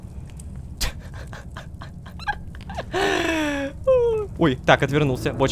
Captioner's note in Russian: Звуки умирающей чайки